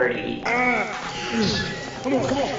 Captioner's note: grunting